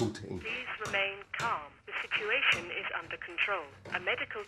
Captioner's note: intercom